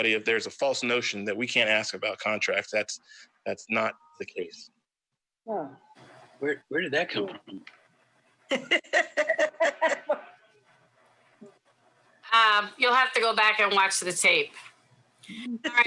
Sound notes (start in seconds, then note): 8.5 laughs